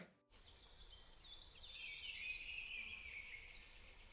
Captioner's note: birds chirping